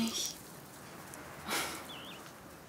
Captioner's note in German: Seufzen